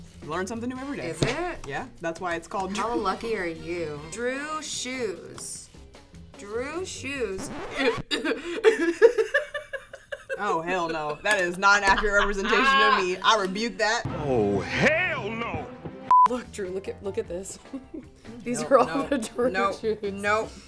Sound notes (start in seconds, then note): 7.3 record scratch; 7.7 coughing and laughing; 16.1 beep; 17.6 laughs